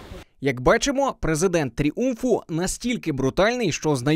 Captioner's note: voiceover